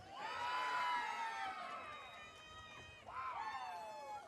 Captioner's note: audience cheering